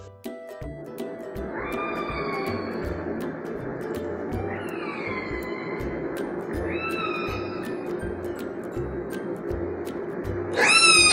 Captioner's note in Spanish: Sonido orcas